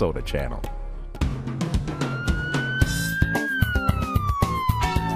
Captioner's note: a siren wails